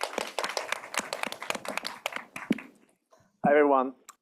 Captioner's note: applause